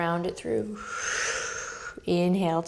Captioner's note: exhaling